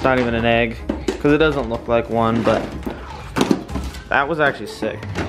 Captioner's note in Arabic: صرير البيض